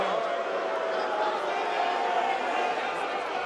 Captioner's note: cheers & boos